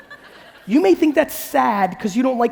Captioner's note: audience laughing